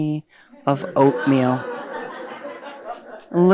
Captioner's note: audience laughing